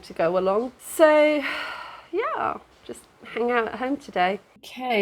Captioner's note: sigh